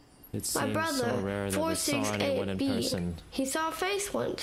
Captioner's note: child's voice